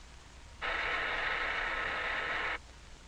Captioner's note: machine whirring